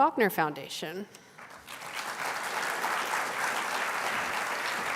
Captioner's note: applause